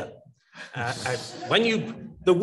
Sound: audience laughs

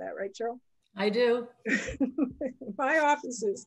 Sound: laughs

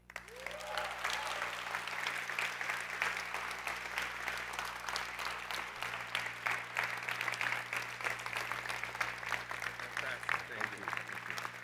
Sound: applause

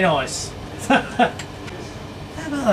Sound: laughing

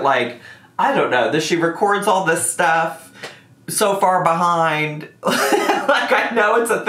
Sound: laughs

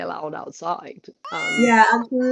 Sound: cat miaowing

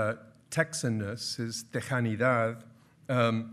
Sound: speaking in foreign language

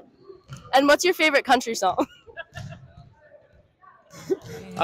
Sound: laughs

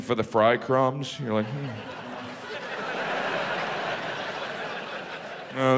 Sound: audience laughs

